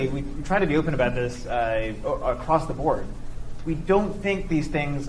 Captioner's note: none